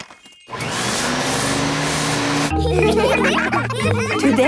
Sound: whirring; all laughing

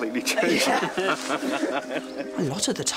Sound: all laugh

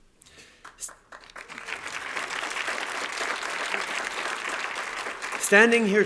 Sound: applause

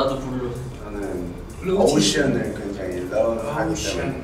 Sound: speaking Korean

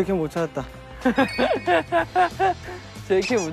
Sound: haha

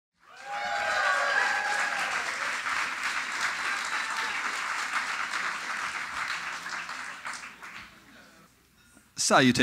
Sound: audience: Polite cheering

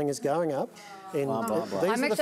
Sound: audience groans

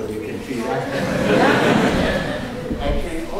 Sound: laughter

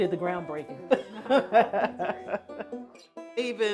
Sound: laughs

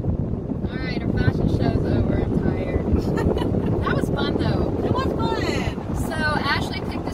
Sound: loud giggles

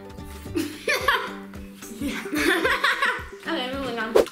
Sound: laughs

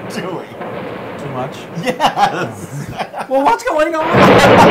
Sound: laugh

